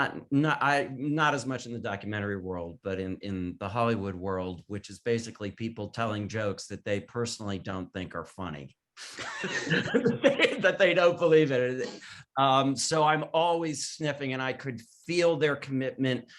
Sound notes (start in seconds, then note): 9.1 panelists laughing